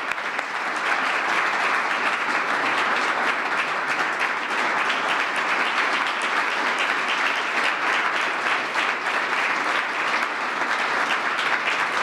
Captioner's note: applause